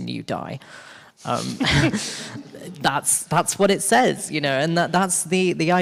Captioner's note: chuckles